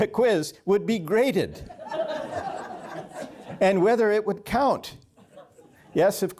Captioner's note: laughter